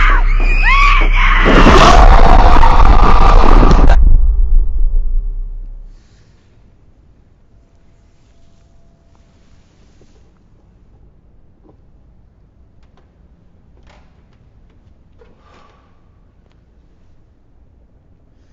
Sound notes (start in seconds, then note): 0.0 screaming